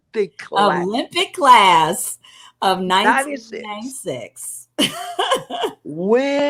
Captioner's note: laughter